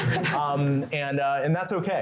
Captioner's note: laughter